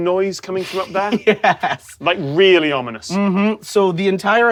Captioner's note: chuckles